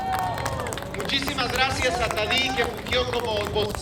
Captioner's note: aplausos